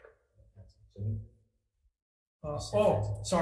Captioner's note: senator speaks faintly